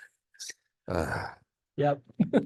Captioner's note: owner sighs loudly; speaker giggles